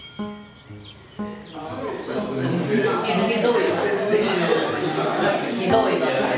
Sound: school bell rings in the distance; indistinct chatter

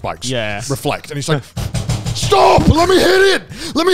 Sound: hand slams

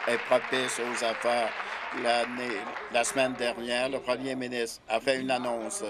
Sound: applause

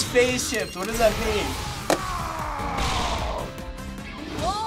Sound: Charizard snarls

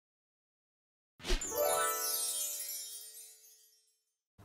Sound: chimes ringing

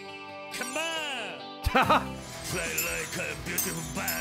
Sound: laughs

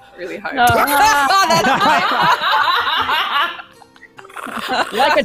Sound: laughing in unison

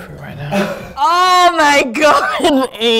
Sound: laughs

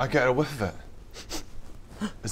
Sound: sniff sniff

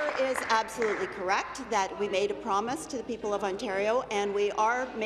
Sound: applause

